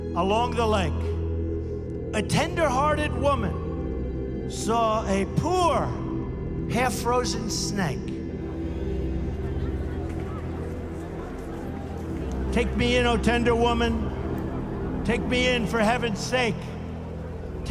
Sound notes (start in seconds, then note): 8.3 crowd murmuring